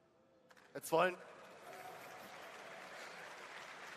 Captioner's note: applause